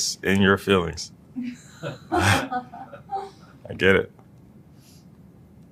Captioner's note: laugh